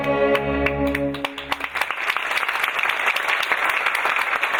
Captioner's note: audience clapping